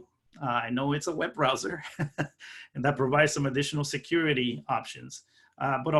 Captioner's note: laughing